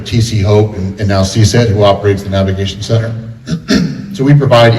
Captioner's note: clears throat